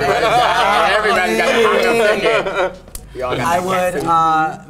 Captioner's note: group laughs